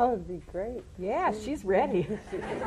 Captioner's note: laughter